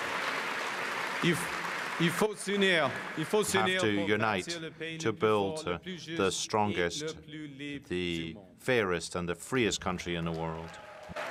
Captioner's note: cheering and Applause